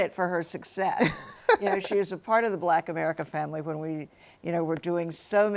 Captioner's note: laughs